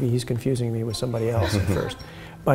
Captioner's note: laughter